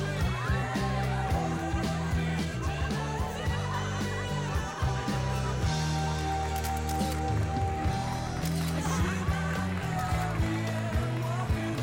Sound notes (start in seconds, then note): 6.5 shutter Clicking